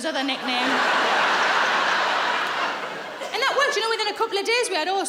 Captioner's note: laughing